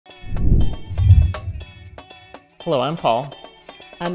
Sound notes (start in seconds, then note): 0.1 lively music; 0.2 logo whooshing